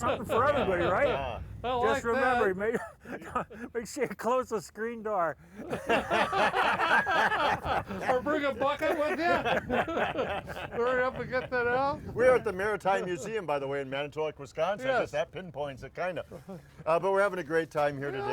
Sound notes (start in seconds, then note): 5.5 all laughing